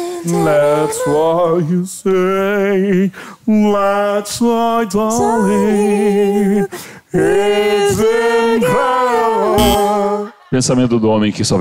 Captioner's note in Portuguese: campainha